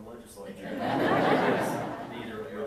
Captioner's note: audience laughing